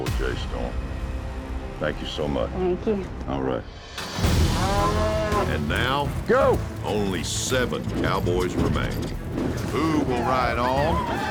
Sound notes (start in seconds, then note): 4.5 bull bellows